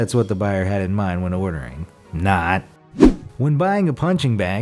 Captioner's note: air whooshes